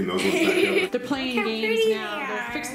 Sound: laughing

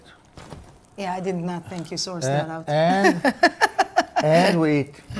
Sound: laughs

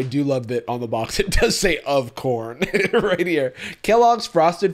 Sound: laughs

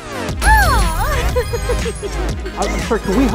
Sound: laughs

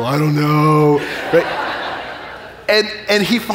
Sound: audience laughing

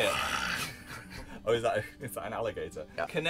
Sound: laughing: oh is that- is that an alligator?

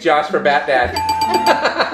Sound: bell dinging; laughing

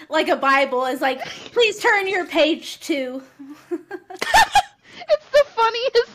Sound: laugter

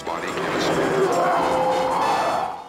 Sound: roar

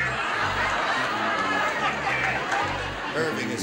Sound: laughter

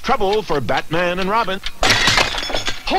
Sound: sound of breaking glass

